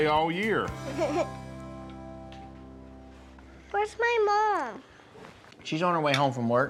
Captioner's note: giggles